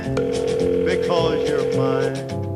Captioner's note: phone ringing